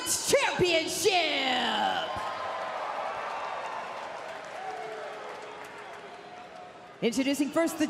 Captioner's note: crowd cheering